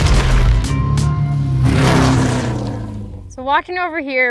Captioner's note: engine buzzes